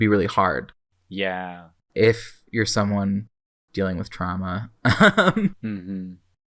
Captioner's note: laughs